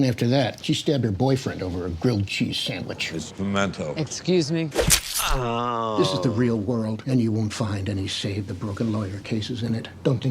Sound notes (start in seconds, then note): 4.7 stab